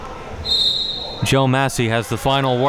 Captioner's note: audience talking; whistle blowing